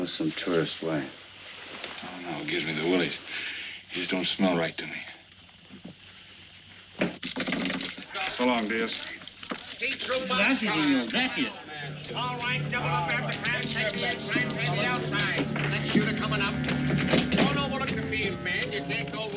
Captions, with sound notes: - I don't know, some tourist. Why? - I don't know. Gives me the willies. He just don't smell right to me. - So long, Diaz. (Diaz speaking in foreign language) (ominous music) - Alright, double up after craps, take the inside, pay the outside. Next shooter coming up. Oh no more looking at the fields men,